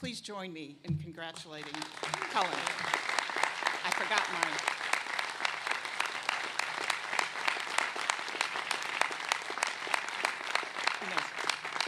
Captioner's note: applause